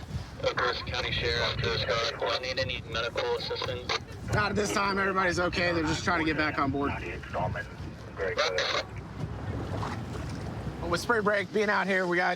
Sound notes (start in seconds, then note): 7.4 radio communication